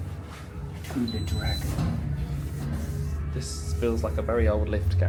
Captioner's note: lift clunks